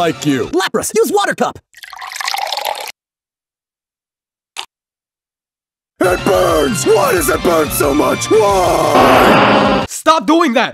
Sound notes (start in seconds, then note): 8.4 screaming